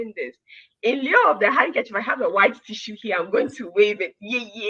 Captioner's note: speaking in foreign language